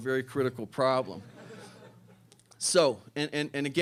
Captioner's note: laughter